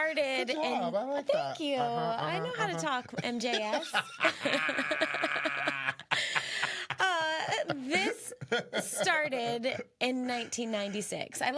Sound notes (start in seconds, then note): 4.5 both laughing